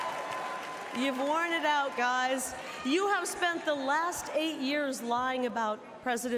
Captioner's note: cheers and applause